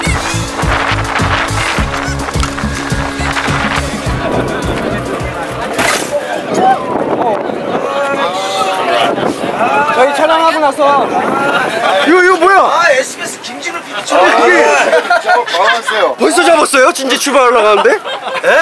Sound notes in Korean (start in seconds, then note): 5.8 부서짐